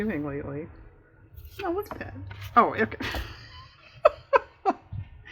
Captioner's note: laughs